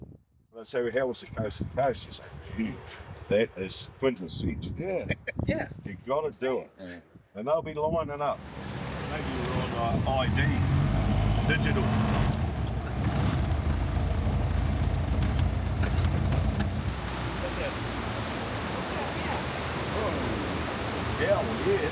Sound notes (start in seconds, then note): 14.2 engine revving